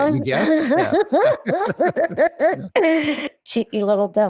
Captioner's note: laughing